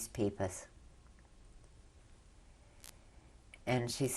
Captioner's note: pauses for 3 seconds